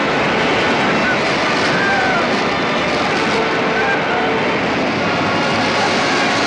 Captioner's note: cheering